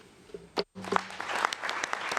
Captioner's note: applause